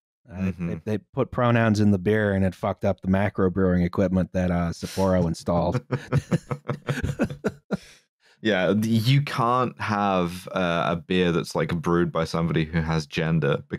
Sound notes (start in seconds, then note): 5.5 laughter